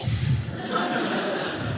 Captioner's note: audience laughing